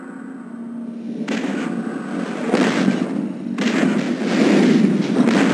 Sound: digitized landslide sounds

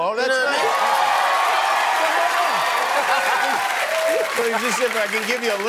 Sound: cheering

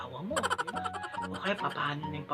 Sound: funny laugh

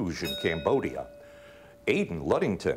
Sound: bell ringing

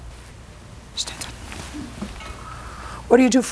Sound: whispering

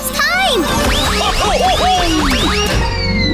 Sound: laughing

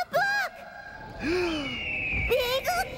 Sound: Lionel gasps

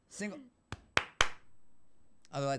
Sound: clapping

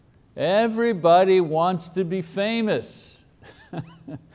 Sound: chuckles

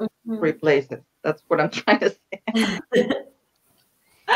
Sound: laughs

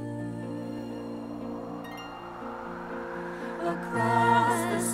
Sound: wind blowing

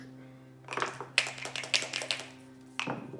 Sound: dice shaking

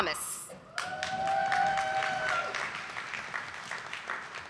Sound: audience applauding

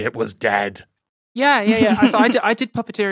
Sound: snickers

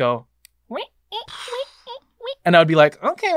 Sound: imitating creaking

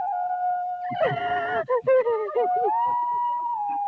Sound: wailing

